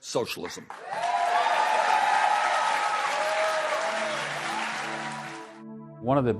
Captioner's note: applause